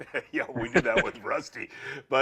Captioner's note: laughing